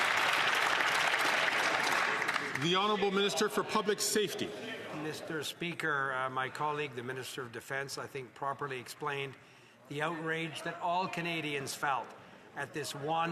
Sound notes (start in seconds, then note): 3.1 some Applause